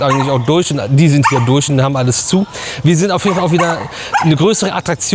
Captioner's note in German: gelächter